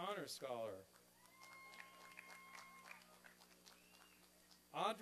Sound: applause and cheering

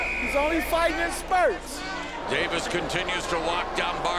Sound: whistle blows

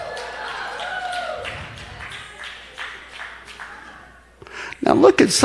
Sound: congregation applauding

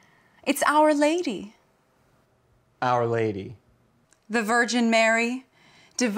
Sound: none

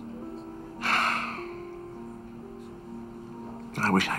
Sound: sighs

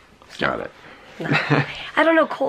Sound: chuckles

